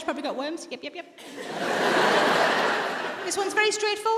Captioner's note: audience laughs